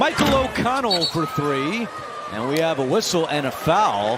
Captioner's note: whistle